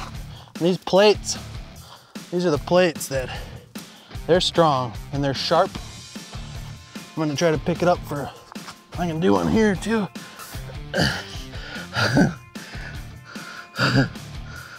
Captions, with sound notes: These plates. These are the plates that... There strong. and there sharp. I'm going to try and pick it up. I can do one here too. (grunt) (laugh) (laugh)